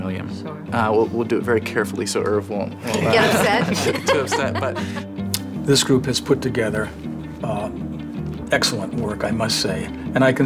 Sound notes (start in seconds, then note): 2.8 group laughs; 3.0 she laughs